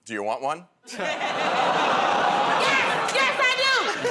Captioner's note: audience "Oh"s